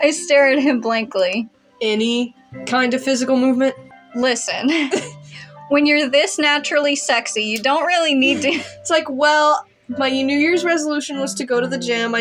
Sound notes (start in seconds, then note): 4.7 snicker; 8.2 chuckle